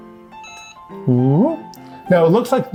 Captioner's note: device beeps